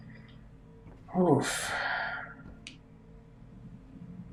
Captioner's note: sighing